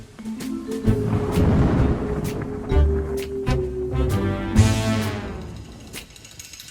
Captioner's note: whimsical music; thunder rumbling